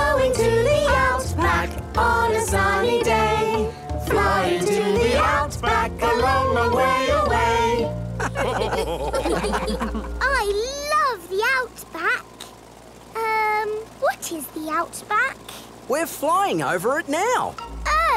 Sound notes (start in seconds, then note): 8.2 all laugh